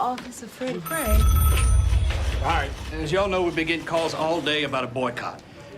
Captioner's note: telephone rings